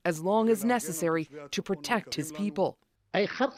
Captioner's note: speaking Alternate Language